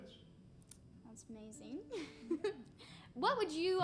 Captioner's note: laughing